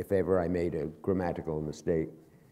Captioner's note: none